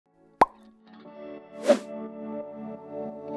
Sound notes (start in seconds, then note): 0.4 pop; 1.6 whoosh